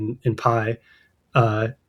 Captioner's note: uh